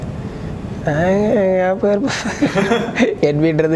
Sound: laughs

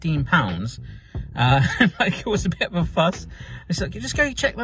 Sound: chuckles

